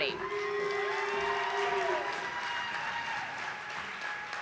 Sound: audience applauding

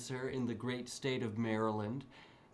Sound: none

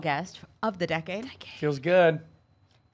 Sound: whispering

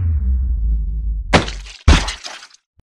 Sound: thumping

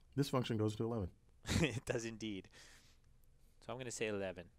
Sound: laugh

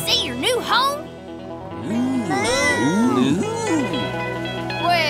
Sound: mooing

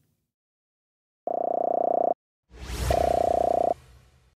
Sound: digital noise

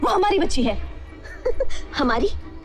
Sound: laughs

